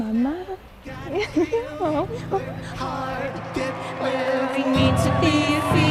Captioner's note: tearful laughter